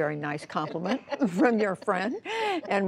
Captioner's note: laughter